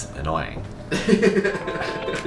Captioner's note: chill techno music; laughing